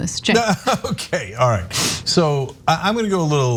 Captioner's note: laugh